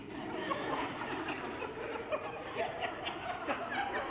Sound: congregation laughs

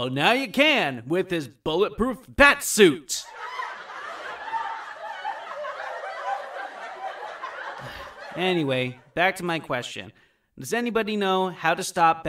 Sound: audience laughter

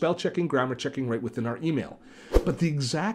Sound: air whooshing

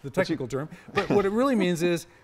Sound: laugh

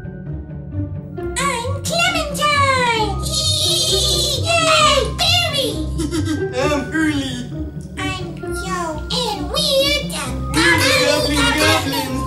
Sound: laughing

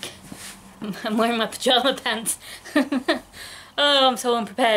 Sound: laughing

